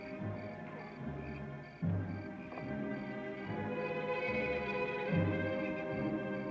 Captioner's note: crickets chirping; ominous music